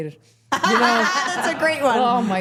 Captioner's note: laughing